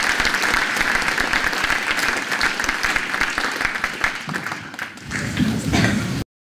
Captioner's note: applause